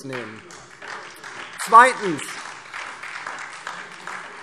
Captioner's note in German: Vereinzelter Beifall DIE LINKE, SPD und Freie Demokraten